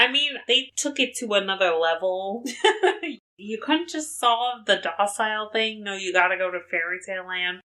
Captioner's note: laughs